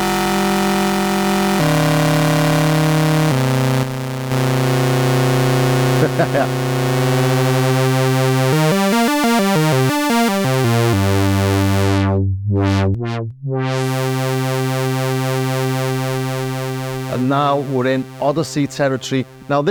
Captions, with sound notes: (laughs) And now we're in Odyssey territory. Now